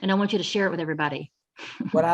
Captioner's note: laughs